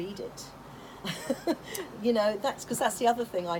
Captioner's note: laughter